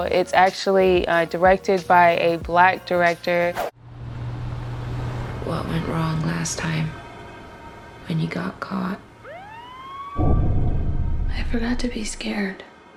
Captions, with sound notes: It's actually directed by a black director. - What went wrong last time when you got caught? (police siren blaring) I forgot to be scared